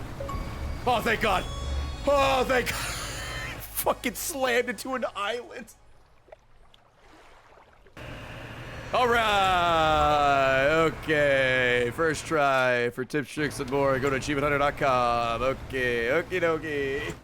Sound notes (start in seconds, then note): 2.6 laughs